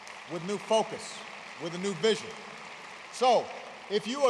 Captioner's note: applause